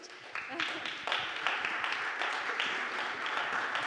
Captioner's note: audience applauding